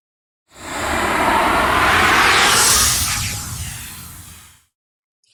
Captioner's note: sharp whooshing sound